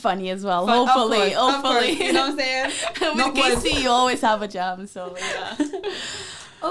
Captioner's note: knocks on desk